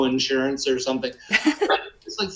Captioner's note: laughs